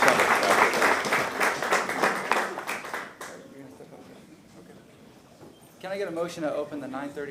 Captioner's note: applause